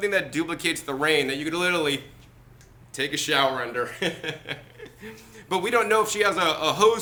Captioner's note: laugh